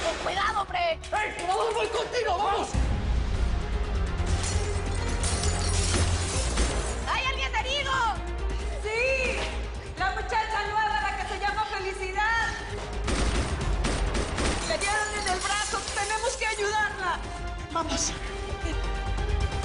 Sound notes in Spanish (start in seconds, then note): 4.3 Estruendo de vidrios; 4.6 Disparos; 12.8 Disparos